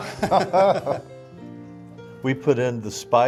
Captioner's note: they laugh